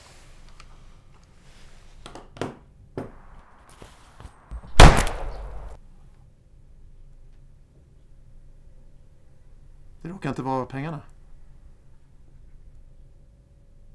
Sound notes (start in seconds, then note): 4.5 gunshot